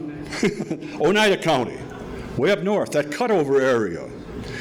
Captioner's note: laughs